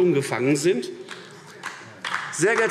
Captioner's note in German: Beifall AfD